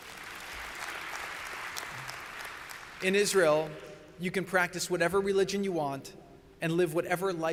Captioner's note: applause